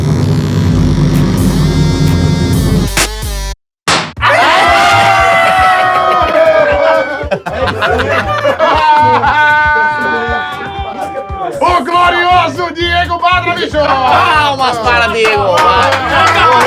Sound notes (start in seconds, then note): 8.7 risos; 15.1 palmas